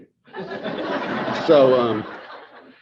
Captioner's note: audience laughing